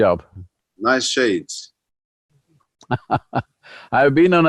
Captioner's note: Sadhguru laughs